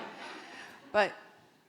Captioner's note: audience laughing